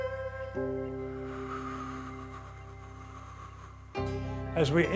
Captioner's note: exhales slowly